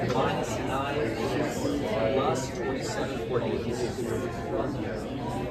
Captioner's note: attendees chattering